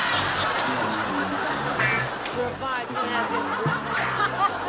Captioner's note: laughter